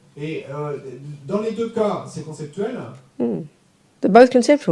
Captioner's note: audience member speaks in French